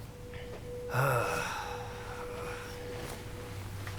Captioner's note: sighs